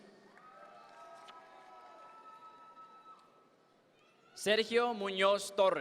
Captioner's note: audience members cheer